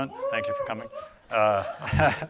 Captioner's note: crowd cheering